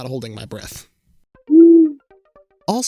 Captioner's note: owl hoots